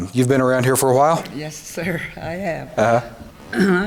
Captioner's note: laughs